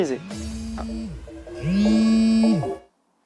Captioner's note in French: téléphone qui vibre